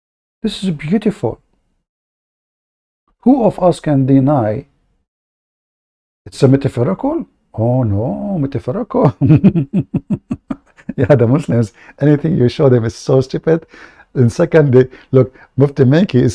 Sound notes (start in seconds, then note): 9.0 Ketawa